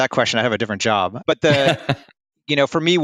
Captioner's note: laughs